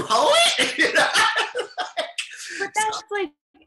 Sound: chuckles loudly

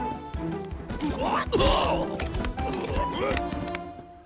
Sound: grunting

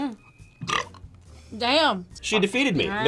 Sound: burps

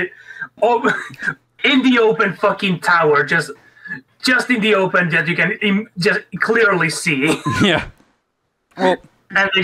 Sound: chuckle

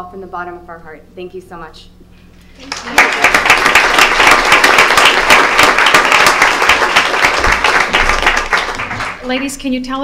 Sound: applause

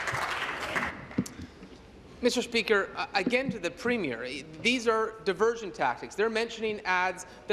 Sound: applause

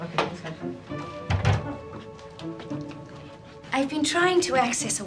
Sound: door closes

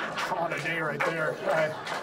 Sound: audience laughs

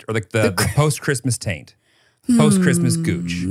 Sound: laughs

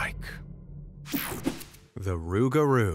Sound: screen whooshing

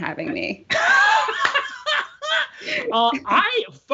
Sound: Brennan laughing

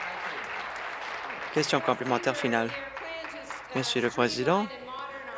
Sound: applause

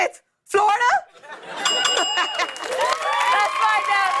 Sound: ding! Ding! Ding!

